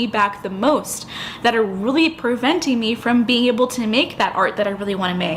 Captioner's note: inhale